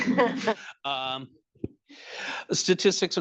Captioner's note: attendees chattering; attendees chuckling